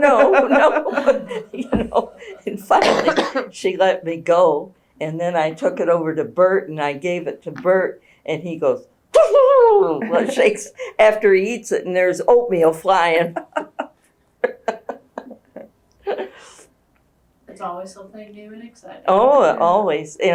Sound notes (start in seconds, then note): 9.3 imitates camel; 14.4 laughter